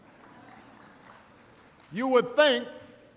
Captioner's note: laughter